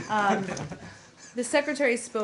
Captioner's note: laughter